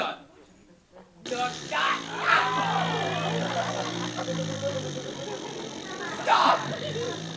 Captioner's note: groaning apologies; unbelievably loud farting